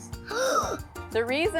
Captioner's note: child gasps